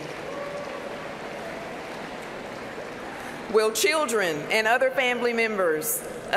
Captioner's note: applause